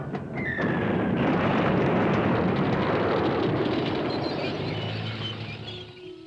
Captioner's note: explosions; shell whistles